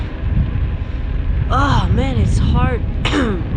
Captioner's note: coughing